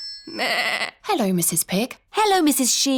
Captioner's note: phone rings; bleats